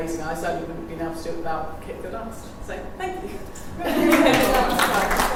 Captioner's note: applause